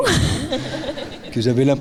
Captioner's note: laughing; audience laughing; speaking in French